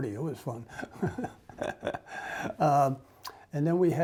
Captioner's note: laughs